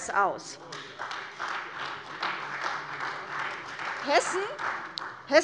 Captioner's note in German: Beifall bei der CDU